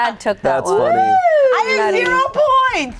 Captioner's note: cheers